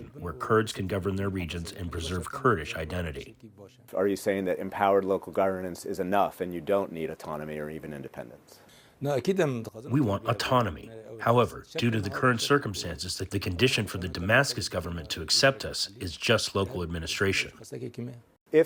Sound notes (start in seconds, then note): 10.3 through translator